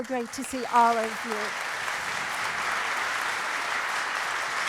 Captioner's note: applause